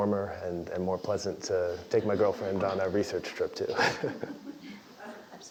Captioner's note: laugh